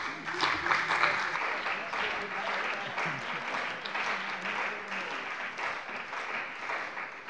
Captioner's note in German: Beifall bei der CDU und dem BÜNDNIS 90/DIE GRÜNEN